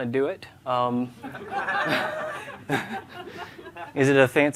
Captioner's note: laughter